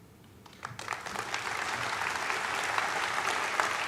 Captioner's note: applauding